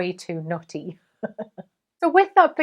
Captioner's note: laughs